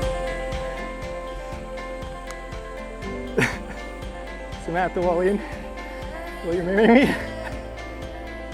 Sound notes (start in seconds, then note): 3.9 laughing